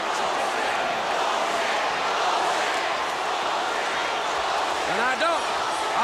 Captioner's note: crowd cheering